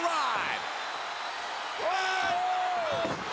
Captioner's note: crowd cheers